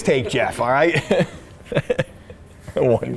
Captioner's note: laughs